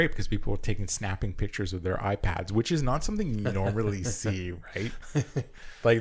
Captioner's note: laughter